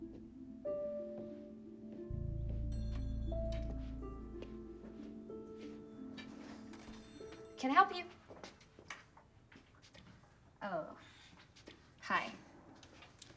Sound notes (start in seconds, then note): 2.6 alarm; 4.3 footstep; 8.1 footstep